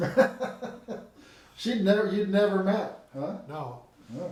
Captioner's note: laughing